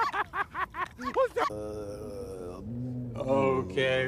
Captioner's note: moaning